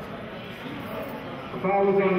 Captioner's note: none